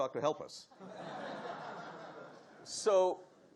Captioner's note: audience laughing